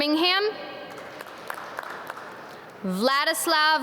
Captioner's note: audience clap